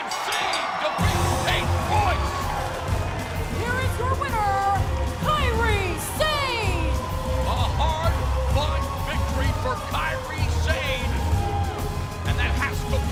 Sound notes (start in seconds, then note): 0.0 bell ringing; 3.1 crowd cheering